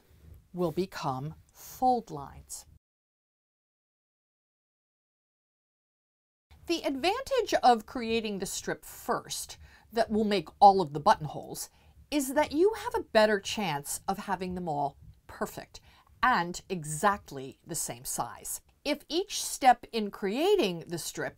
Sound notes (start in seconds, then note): 2.7 no Sound Present